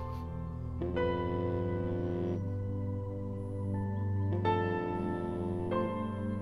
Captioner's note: Phone vibrating